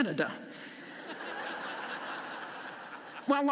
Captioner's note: laughter